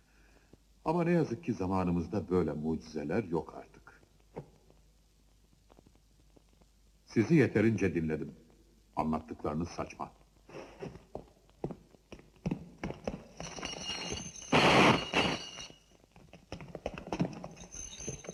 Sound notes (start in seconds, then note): 12.9 chains clinking